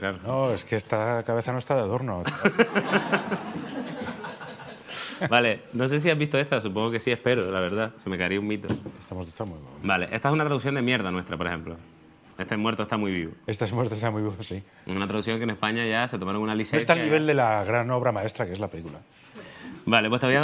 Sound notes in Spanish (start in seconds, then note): 2.2 Risas